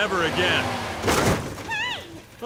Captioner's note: engine revs; crash